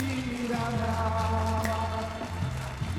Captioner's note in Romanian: Aplauze